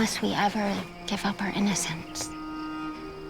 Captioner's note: birds chirping; calm music playing